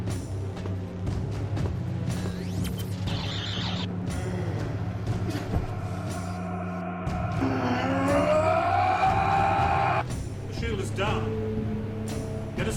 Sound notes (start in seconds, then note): 5.6 Aciris groans; 8.0 Aciris roars